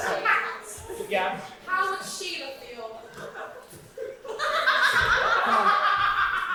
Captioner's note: audience heckling and laughing